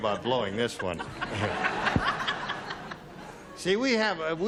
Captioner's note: laughter